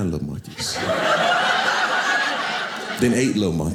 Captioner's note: audience laughing